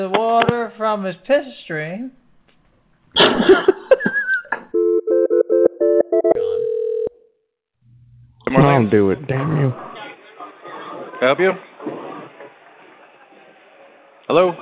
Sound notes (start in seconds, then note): 3.2 laughing; 4.7 phone ringing